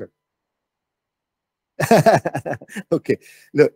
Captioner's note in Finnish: Laughs